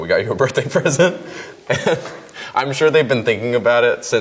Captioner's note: laughs